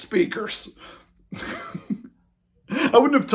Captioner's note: laughs